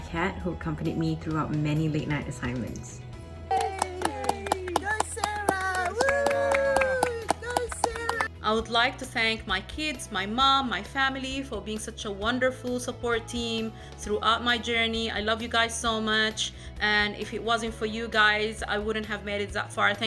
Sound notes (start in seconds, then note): 3.5 celebratory cheers; 3.5 whooping